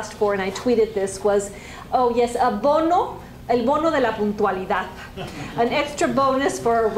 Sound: spanish

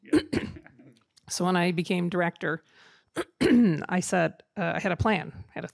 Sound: coughs

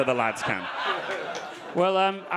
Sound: audience laughing

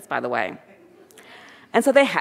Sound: audience chuckling

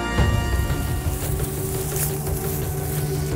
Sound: foliage rustling; heavy drumming

